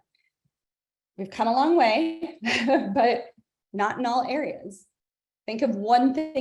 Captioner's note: laughs